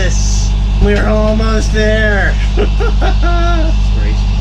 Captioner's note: crazy laughter